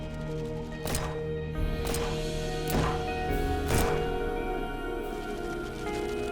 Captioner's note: shots firing; singer vocalizing